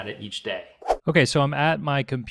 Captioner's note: whooshing